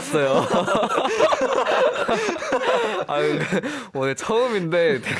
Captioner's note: laughs